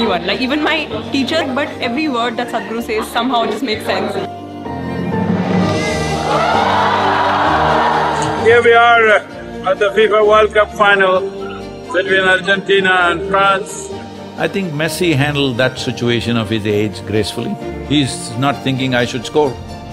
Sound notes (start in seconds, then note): 4.6 applause; 6.1 cheering